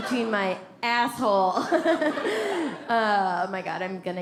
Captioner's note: audience laughs; laughs